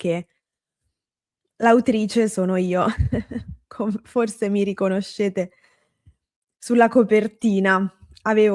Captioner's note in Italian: risate